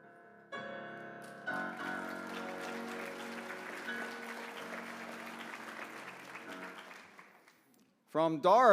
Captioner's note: applause